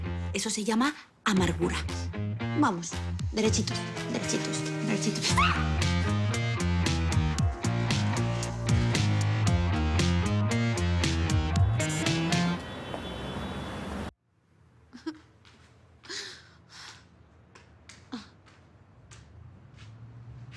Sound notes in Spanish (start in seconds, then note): 5.3 Grito; 14.7 Exclamaciones